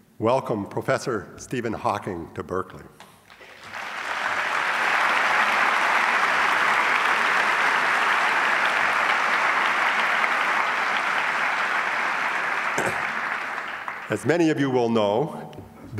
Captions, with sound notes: welcome Professor Stephen Hawking to Berkeley. (audience applauds) As many of you will know,